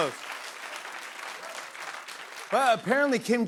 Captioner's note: applause